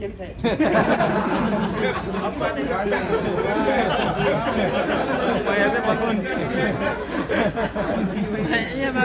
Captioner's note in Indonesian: Jama'ah tertawa